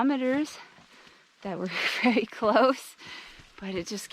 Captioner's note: laughter